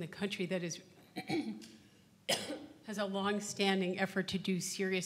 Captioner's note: coughs